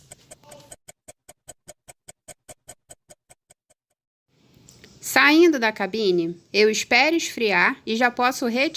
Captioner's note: laugh